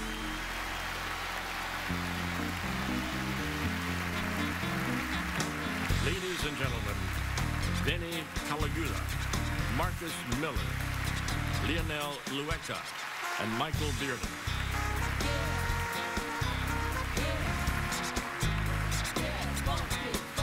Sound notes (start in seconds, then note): 0.0 song ends; 2.7 crowd cheering; 16.4 crowd cheering